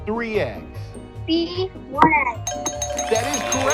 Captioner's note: animals applauding